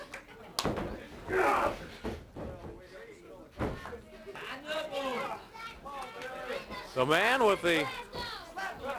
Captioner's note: crowd chatter